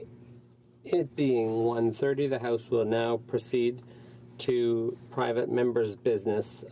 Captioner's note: speaking in french